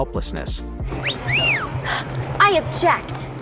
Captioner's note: whistles